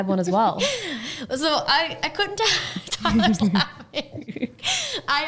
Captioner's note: laughing